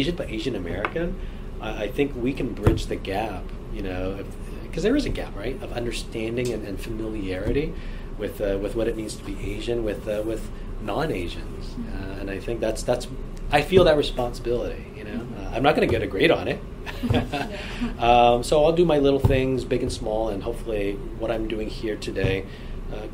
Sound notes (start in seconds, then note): 16.9 laughs